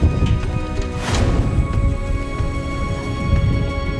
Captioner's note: wind